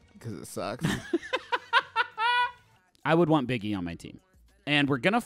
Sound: laughing

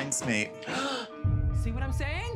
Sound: knock on door

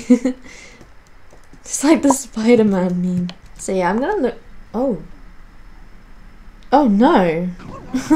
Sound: laughing; wheezes

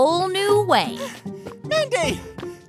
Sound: panting while running up

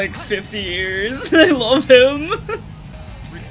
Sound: laughter

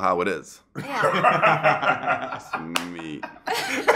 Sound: laughter

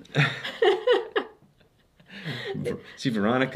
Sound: both laughing

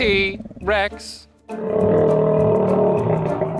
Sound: roars

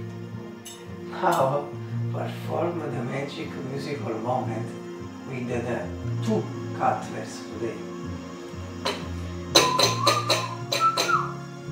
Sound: whistle

